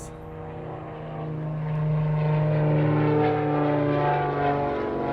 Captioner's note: loud droning of aircraft